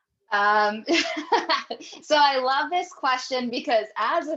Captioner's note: laughs